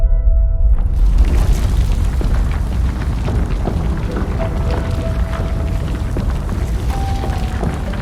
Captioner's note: rumbling